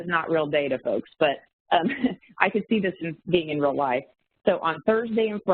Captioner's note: chuckles